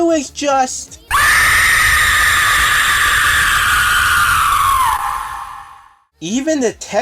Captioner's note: shriek of horror